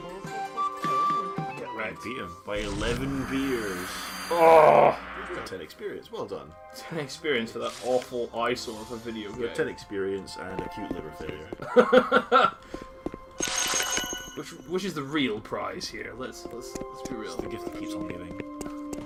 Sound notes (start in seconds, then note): 4.3 groans; 11.6 laughs